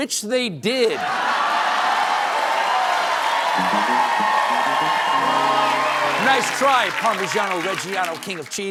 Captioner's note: cheers and applause